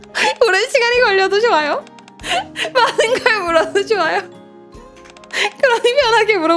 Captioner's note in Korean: 웃음